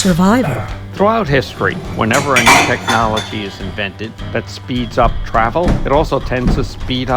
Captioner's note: podcast Voice